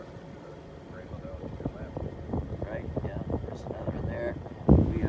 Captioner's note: background chatter